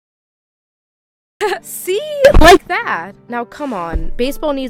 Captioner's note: chuckles